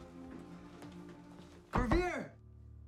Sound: knocking

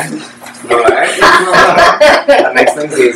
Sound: laughter

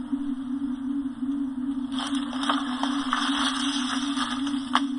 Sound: leaves rustling loudly

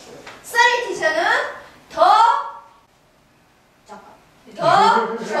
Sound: speaking foreign language; laughing

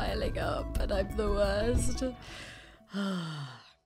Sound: sigh

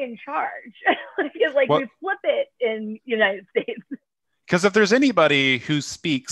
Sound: laughter

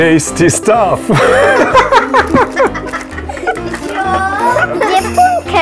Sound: hahahaha

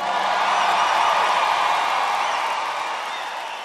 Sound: crowd cheering

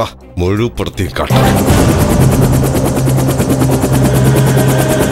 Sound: helicopter whirring

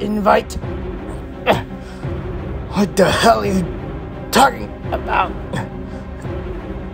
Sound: Darius struggling

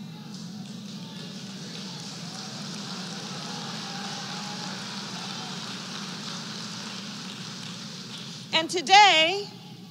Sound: applause

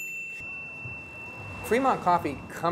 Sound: ding

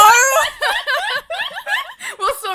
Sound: laughter

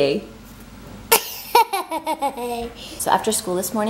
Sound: giggles

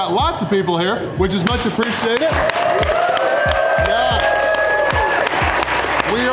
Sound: crowd cheering

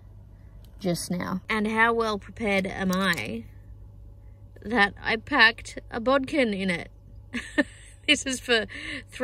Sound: chuckles

